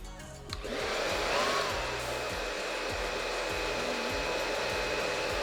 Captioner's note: hair dryer starts low